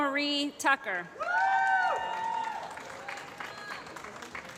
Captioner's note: applause